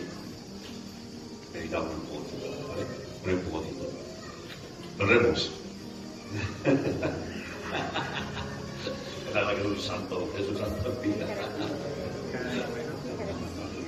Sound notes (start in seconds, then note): 6.2 laughs